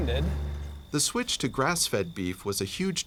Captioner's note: voiceover